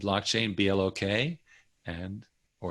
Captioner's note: none